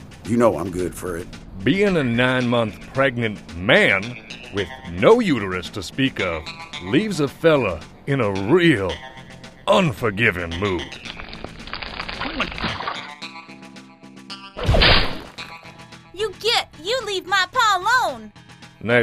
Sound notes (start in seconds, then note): 11.0 umbilical cord squelching; 14.6 umbilical cord cracking